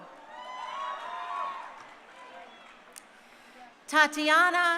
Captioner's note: crowd cheering